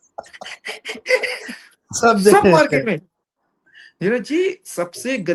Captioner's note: laughs